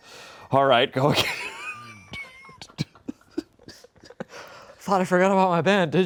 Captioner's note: laughs